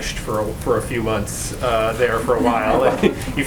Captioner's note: laughter